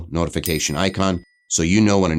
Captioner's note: bell dings